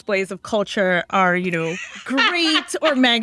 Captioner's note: laughter